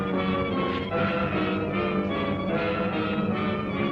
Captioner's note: none